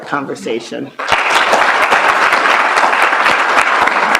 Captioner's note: applause